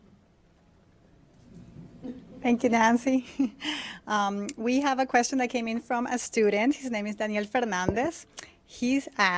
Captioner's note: laughter